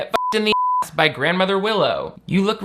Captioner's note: beep